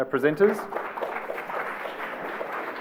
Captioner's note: applause